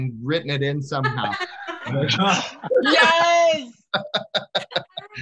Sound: all laugh

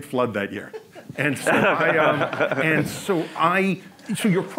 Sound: audience laughs

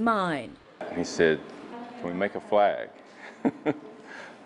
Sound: laughs

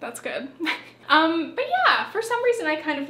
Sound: chuckles

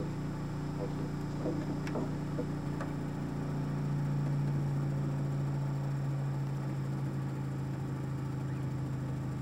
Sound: same ticks as before, but quieter and more closely spaced

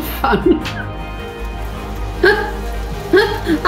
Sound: laughs

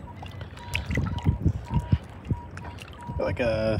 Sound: beep beep

